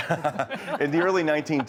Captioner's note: laughing